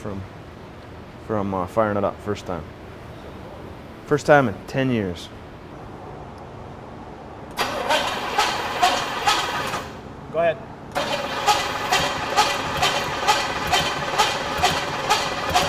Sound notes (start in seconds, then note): 7.7 engine cranking